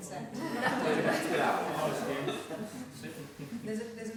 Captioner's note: laughing